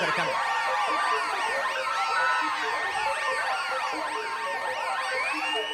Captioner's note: alarm wailing